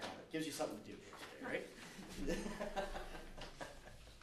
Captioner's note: laughter